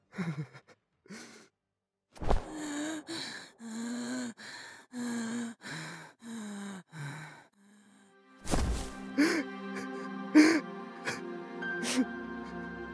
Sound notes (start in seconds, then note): 2.4 gasping for air; 9.1 sobbing